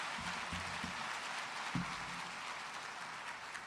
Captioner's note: applause